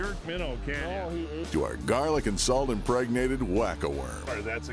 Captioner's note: voiceover